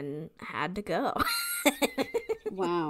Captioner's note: laughs